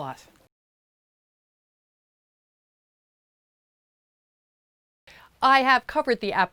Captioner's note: no Sound Present